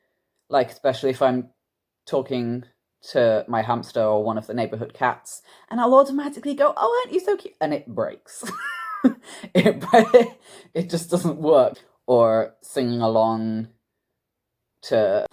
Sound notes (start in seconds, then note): 7.9 voice breaks; 8.4 laughs